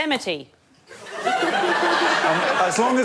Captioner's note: laughter